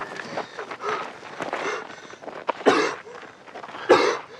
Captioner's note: panting and coughing